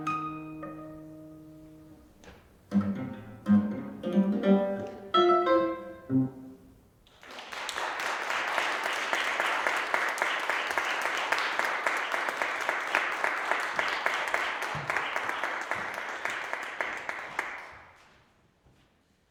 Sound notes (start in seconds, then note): 0.1 gentle classical guitar music; 7.4 applause